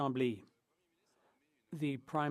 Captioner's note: speaking French